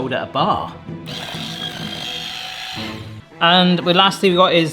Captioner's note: whisking sound